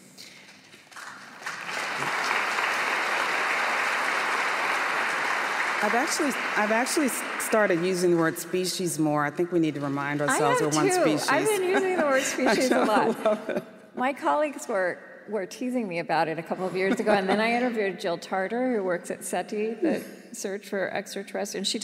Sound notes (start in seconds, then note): 0.2 applause; 11.3 laughs